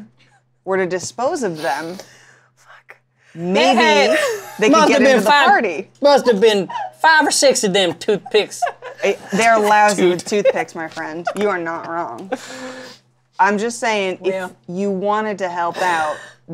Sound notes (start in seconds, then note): 0.0 giggles; 2.4 whispers; 7.7 laughs